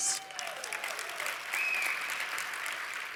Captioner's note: cheering